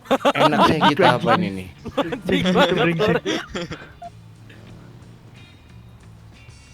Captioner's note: laughs